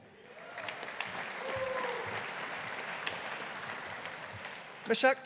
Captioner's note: audience applauding